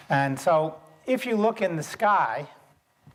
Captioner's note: none